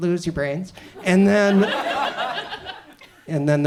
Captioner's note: audience chuckles